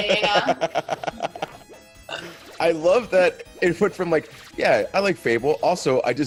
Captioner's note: laugh